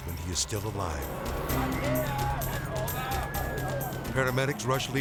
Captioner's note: firefighters shouting in foreign language